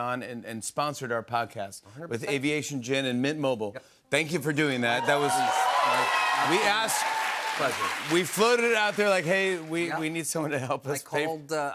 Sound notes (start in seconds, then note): 4.7 cheers and applause